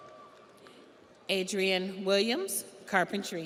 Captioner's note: audience applauds; audience cheers